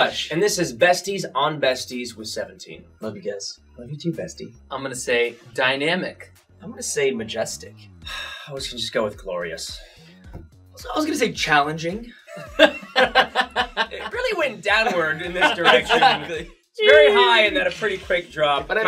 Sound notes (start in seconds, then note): 8.0 sighs; 12.3 all laugh